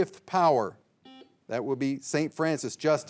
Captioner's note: signal beeps